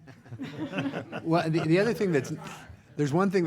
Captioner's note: group laughs